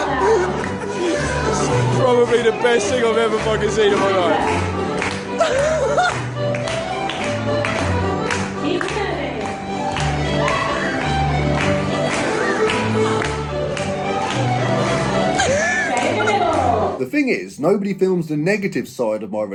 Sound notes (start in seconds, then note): 5.2 laughing; 5.6 upbeat music; 9.1 clapping; 9.1 upbeat music